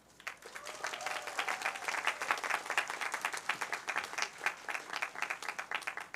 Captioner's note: cheers, applause